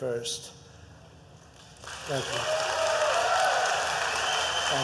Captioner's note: applause